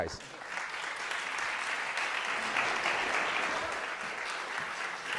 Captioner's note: crowd applauds